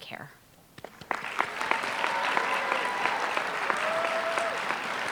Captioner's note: applause